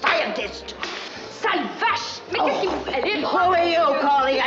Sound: speaking french

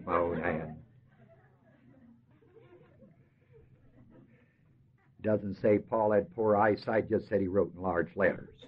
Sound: laughter

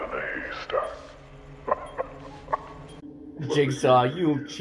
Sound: Jigsaw laughs

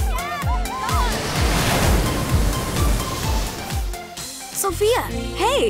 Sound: waves crashing

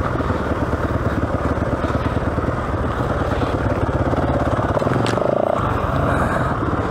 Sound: engine revving

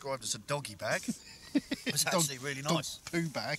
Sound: laughs

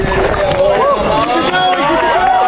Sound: crowd

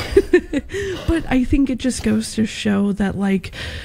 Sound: laughing

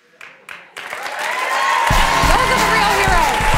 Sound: cheering and applause

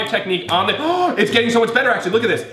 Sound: gasps

